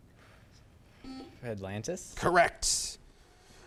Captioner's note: buzzer chimes